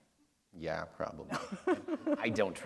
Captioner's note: laughter